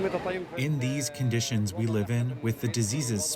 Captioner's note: through translator